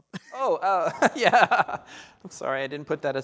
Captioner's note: laughter